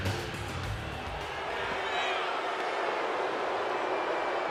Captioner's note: rock music; audience booing